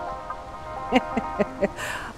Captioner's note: laughing